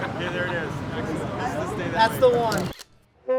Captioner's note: camera shutter snaps; saxophone plays